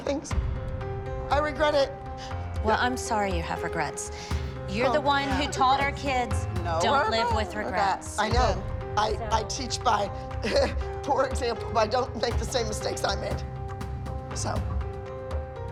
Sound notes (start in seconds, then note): 10.4 chuckles